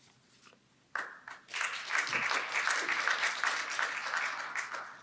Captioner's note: audience applauding